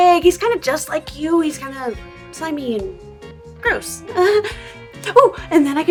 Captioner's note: nervous Laughter